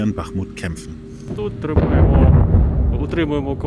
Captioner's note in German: Detonation